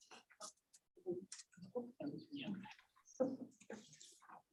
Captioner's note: people murmuring